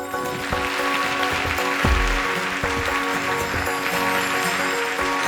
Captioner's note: applause